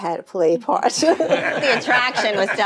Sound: all laughing

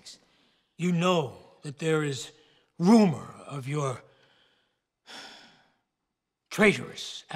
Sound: sighs

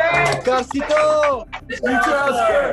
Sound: non-english speech

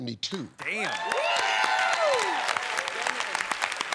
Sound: cheers and applause

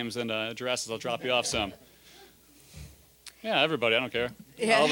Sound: audience laughing

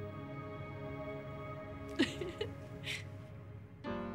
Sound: giggles

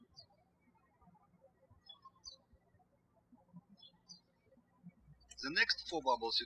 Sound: birds chirping

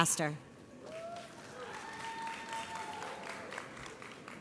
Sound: audience applauds

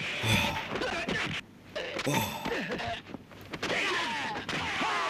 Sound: Georges burping; fighting sound effects

